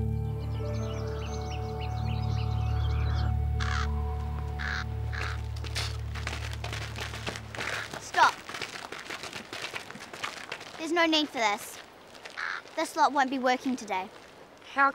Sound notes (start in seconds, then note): 0.0 birds singing; 4.3 bird cawing